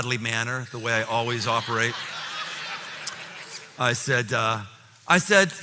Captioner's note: laughter